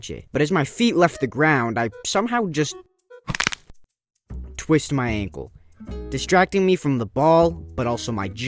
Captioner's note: crack